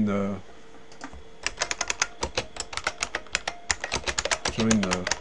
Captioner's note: typing